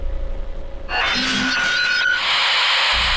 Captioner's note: monster screeching; static hissing